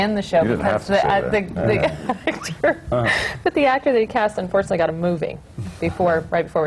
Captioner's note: laughs; laughs